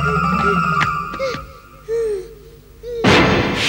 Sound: panting

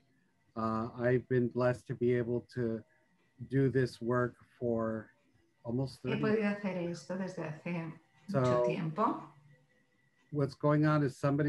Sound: speaks Spanish in background

